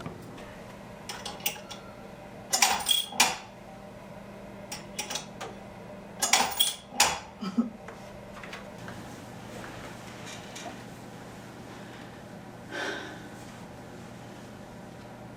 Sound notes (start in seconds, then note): 1.1 clown clanging; 2.6 coin clicking; 4.6 coin clicking; 6.2 clown clanging; 7.4 Alice giggles; 12.7 Alice sighs